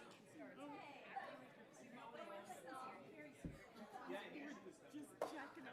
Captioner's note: attendees chattering